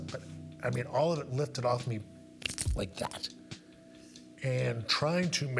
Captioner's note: fingers snapping